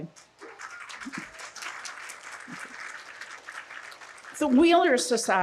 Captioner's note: audience applauding